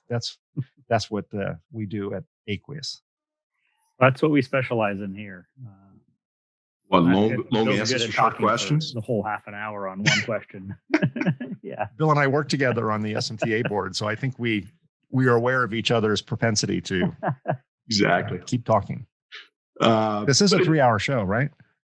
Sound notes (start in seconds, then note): 12.5 men laughing; 16.8 laughing